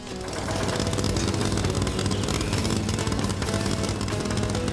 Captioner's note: rumbling